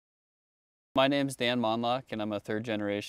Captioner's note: voiceover